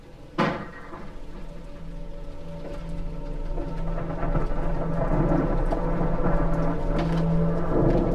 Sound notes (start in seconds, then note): 2.9 thunder Rumbling